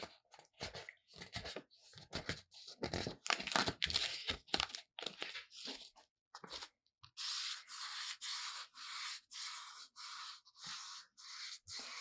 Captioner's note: paper sounds